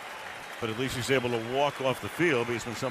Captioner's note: cheering